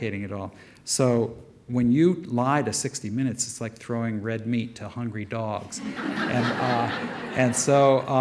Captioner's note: audience laughter